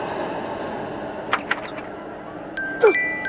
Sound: door opens; cell phone ringing; Jassi shrieks

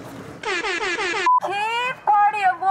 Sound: siren blast

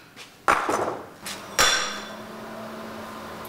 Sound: machine noise; metal sound

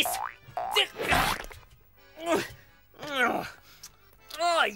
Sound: grunts

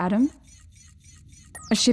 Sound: computer alert

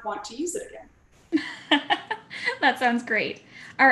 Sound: laugh

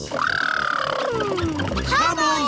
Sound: makes sputtering noises

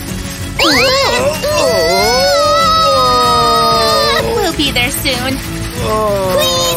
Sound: screaming

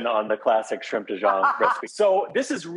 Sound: laughs

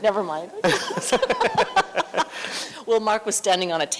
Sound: laughter

